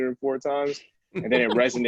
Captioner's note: laughter